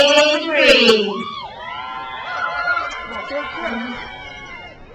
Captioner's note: crowd cheers